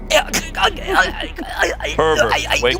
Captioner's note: splutters